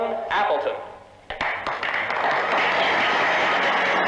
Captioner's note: applause; swanky jazz music